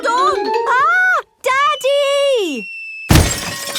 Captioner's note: none